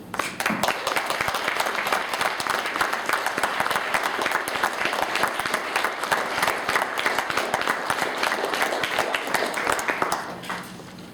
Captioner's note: applause